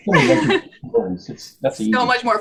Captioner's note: laughs